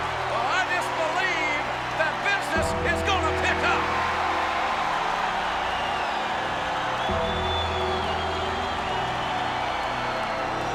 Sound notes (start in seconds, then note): 4.0 audience cheers